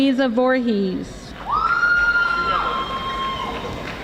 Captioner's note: audience applauding